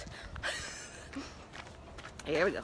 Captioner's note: laughs